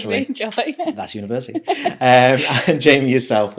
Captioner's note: laughing